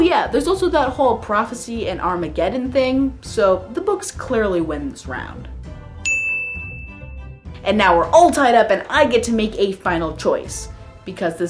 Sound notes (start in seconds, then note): 6.0 ding